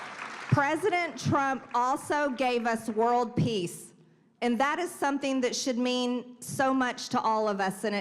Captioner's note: applause